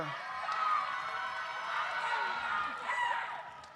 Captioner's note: audience cheers